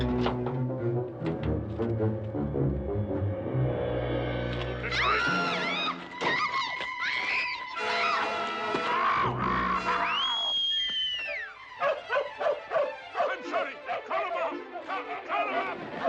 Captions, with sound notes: - You little... - [screaming] No! - [screaming] - [whistling] [barking] I'm sorry. Call them off, call them off.